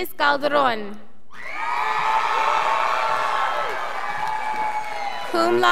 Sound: scholars applauding

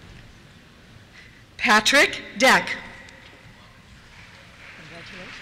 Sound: applause

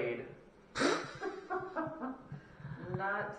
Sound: laughter

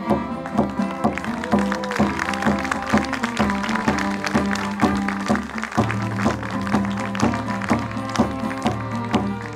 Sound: applause

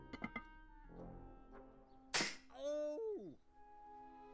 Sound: snapping

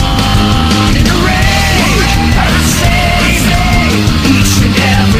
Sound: rage

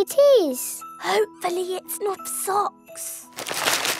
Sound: whispering

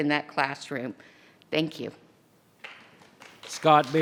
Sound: audience clapping

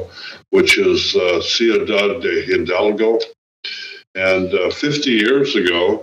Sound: speaking foreign language

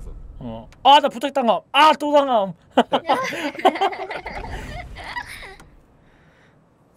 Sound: laughs

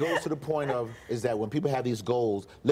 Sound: laughter

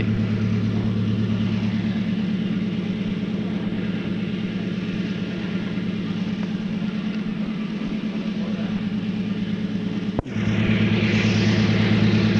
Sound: sound of the train moving

